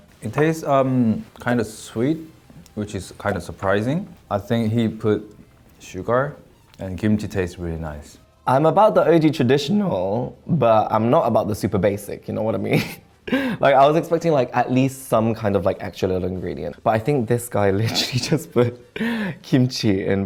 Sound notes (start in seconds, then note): 13.3 laughs